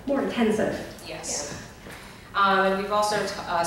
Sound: voiceover

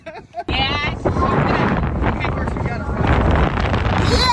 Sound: wind blowing

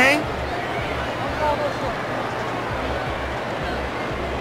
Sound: crowd cheering

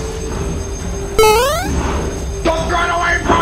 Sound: Super Mario jump sound

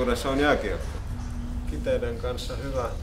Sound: humming

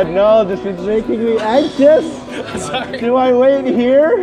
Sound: laughing

